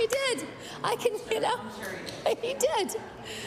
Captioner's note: applause; laughter